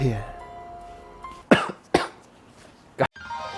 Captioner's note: cough